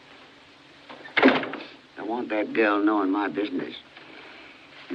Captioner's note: door Closes